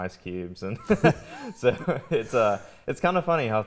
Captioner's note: laughs